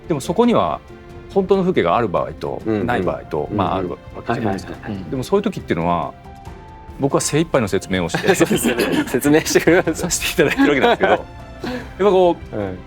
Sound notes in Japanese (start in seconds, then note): 8.1 笑い; 9.3 咳払い